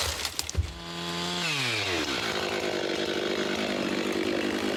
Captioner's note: saw engine rattling